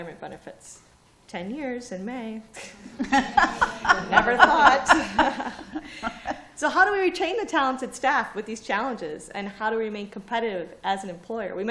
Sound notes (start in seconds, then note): 2.6 laughter